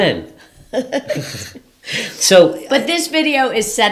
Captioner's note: laughs